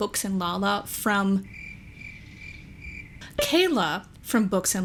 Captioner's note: crickets